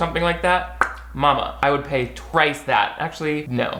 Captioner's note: pops lips